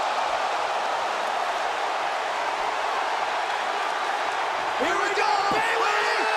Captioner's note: crowd cheering